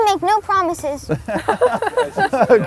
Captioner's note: all Laughing